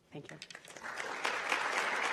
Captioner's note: applause